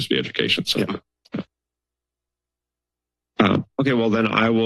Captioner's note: silence